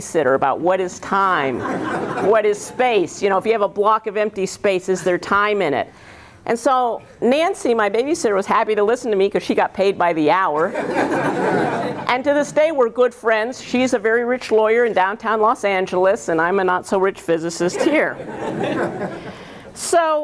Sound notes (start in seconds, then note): 10.6 laughter